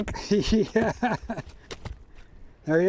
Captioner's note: laughs